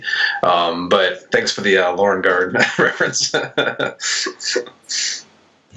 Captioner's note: laughs